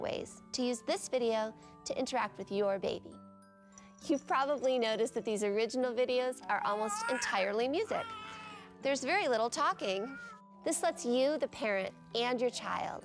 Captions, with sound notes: to use this video to interact with your baby. You've probably noticed that these original videos - are almost entirely music. - [baby fussing] There's very little talking. This lets you, the parent, and your child